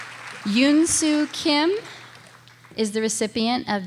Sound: audience applauding

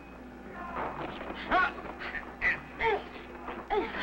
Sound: all groaning

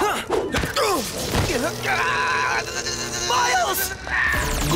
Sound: buzzing

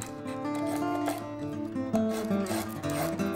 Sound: scraping

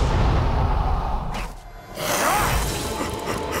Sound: grunting

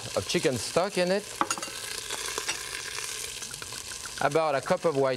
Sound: sizzling

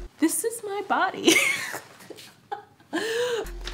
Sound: laughs

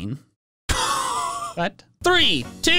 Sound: laugh

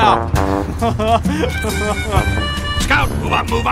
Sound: The M18 laughs

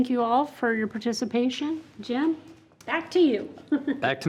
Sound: laughs

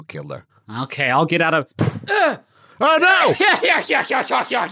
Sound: thump

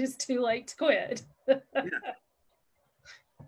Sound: laughs

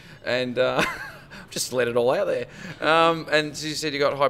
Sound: laughs

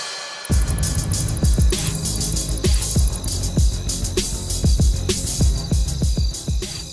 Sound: crickets chirping

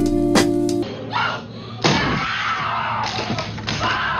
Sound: screaming

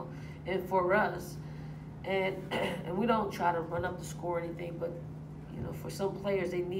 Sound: cough

